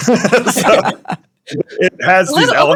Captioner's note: laughing